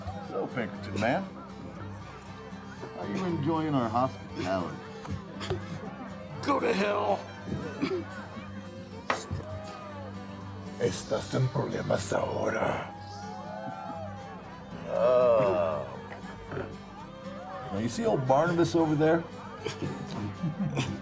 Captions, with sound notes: So Pinkerton man, how you enjoying our hospitality? - Go to hell! (outlaw speaking Spanish) - (chuckling) Oh. Now you see old Barnabas over there?